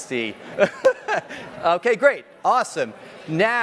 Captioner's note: laughs